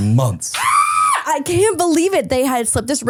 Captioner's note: person screaming